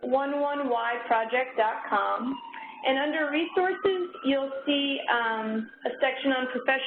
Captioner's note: sirens